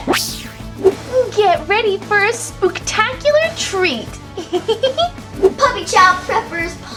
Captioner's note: laughs